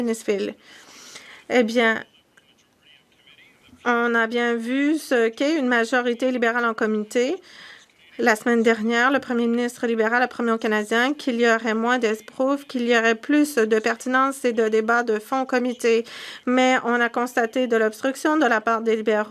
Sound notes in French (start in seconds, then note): 5.8 voix de l'interprète